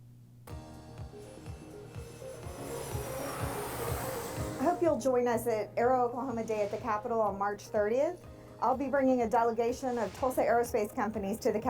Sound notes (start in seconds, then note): 0.5 lively music; 2.2 airplane engines roaring